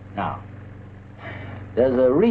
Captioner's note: Pete cawing